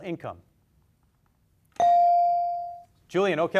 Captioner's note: beep